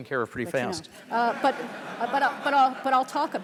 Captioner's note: audience laughter